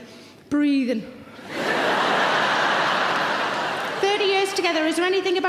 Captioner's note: audience laughing loudly